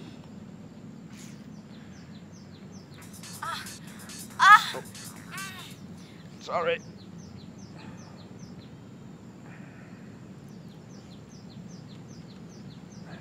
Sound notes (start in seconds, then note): 3.3 pornography sounds; 7.0 birds chirping